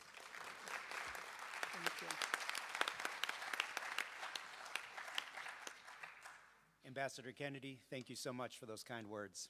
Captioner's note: applause